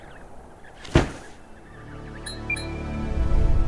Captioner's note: baby penguins chirping; wind blowing; loud thud; musical drone; metallic "blink" sound effect; short uptempo melody; whoosh